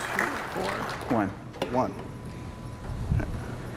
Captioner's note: applause